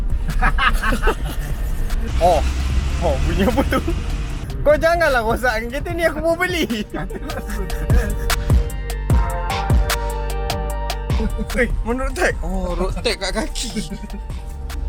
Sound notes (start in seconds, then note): 0.2 lauging out loud; 6.4 laughing continue